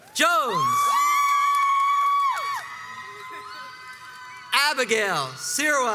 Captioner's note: crowds cheers and applauds